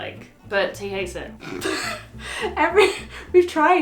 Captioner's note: laughs